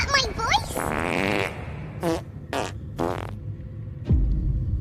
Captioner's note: fart sounds